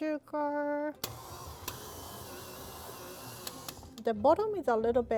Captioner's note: mixer whirring